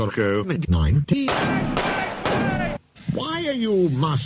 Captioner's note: gunshots